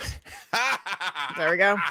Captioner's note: laughs